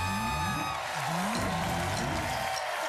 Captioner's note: cheers and applause